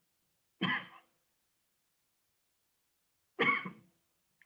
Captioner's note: coughing